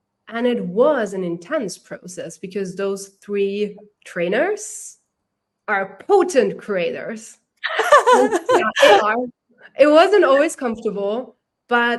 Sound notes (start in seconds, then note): 7.6 laughter